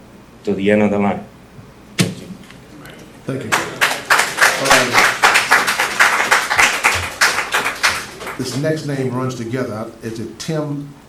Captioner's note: applause